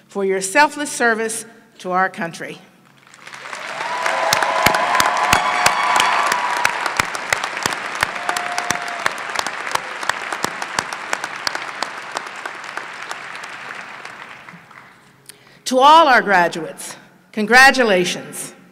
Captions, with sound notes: FOR YOUR SELFLESS SERVICE TO OUR COUNTRY. [applause] TO ALL OUR GRADUATES CONGRATULATIONS. YOU